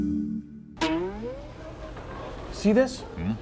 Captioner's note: twang!